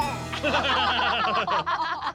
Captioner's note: everyone laughs